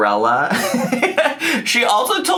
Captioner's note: laughs